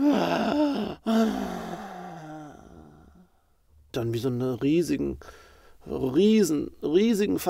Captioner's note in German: Weinen